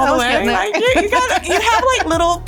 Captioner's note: laughing